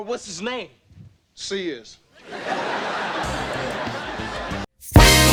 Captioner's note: audience laughing; upbeat music